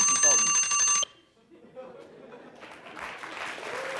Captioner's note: alarm rings; applause